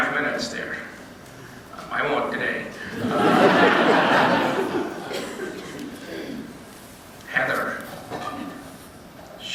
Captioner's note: laughter